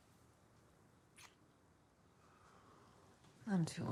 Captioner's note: lips smack